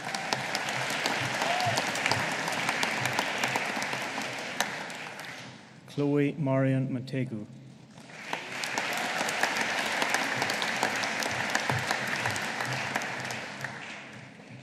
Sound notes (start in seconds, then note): 0.0 audience applauding; 7.9 audience applauding